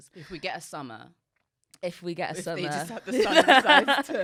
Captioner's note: both laughing